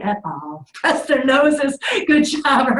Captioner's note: laughing